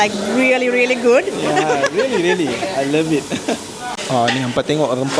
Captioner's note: laugh